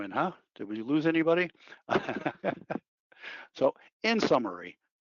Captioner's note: laughing